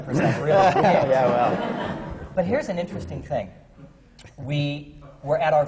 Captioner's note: laughter